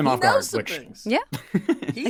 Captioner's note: laughing